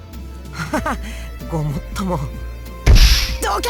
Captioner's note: awkward laugh